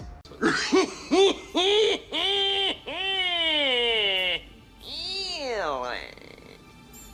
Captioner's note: cynically laughing